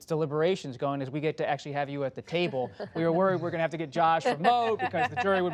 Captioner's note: laughter